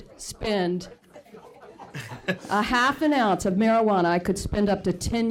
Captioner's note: laughter